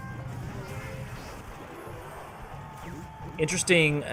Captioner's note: game sounds